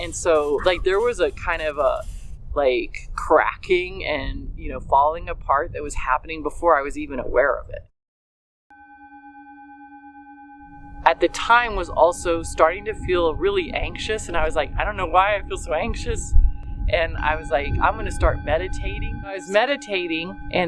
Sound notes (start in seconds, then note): 8.5 singing bowl rings